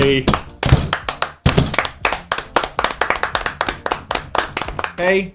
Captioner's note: all applauding